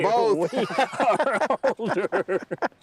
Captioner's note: both laughing